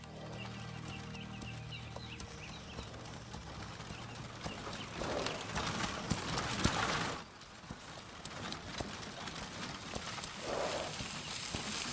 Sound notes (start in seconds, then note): 0.0 horse hooves thudding; 0.0 gentle music; 4.8 horse snorts; 8.4 horse hooves clopping